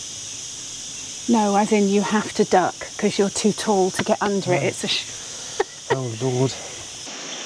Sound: laughter

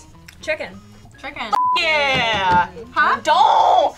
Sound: beep

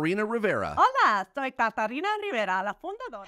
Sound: speaking Spanish

